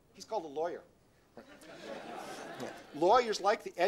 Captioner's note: laughter